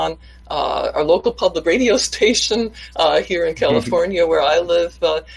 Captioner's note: laughing